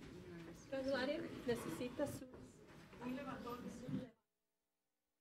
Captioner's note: speaking in foreign language